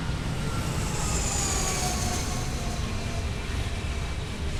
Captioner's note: airplane whirring